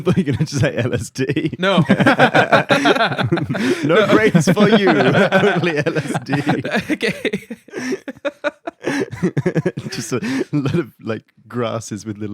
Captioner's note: laughing